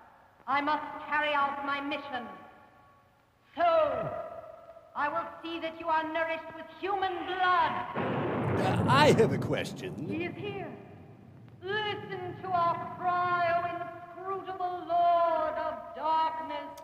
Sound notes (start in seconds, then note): 7.9 thunder rumbles